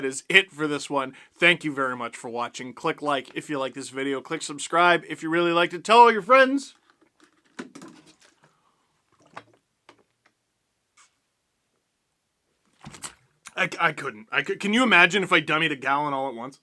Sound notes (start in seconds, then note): 9.1 aggressively drinks water